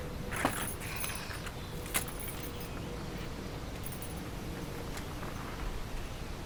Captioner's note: birds chirping; suitcase thuds; keys jingle